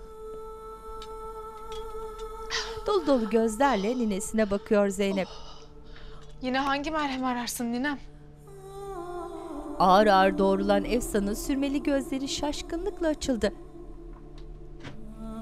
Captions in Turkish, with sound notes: (Nefes sesi) Yine hangi merhemi ararsın ninem? (Müzik - Hüzünlü)